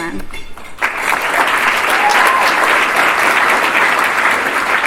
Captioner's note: applause